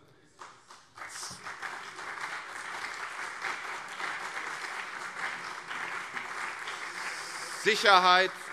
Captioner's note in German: Beifall CDU und SPD